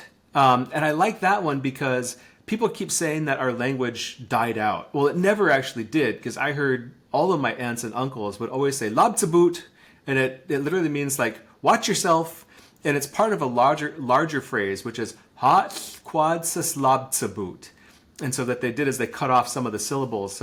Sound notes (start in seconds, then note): 9.0 speaking in Lushootseed language; 15.1 speaking in foreign language